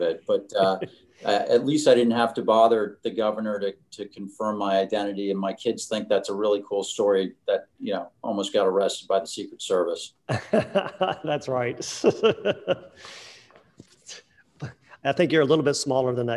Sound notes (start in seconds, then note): 10.3 laughing